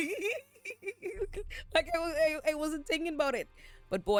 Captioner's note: laughs